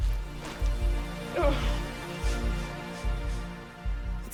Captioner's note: choked panting